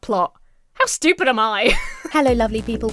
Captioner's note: Emma laughs